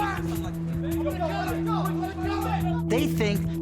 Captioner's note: shouting continues